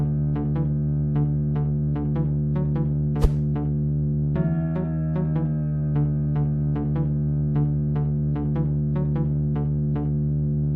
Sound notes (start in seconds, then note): 3.2 swoosh